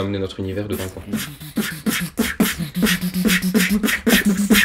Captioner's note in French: beatbox